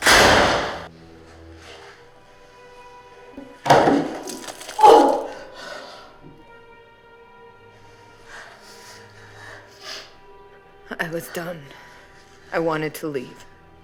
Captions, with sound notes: (door slamming) (Elizabeth retching) I was done. I wanted to leave.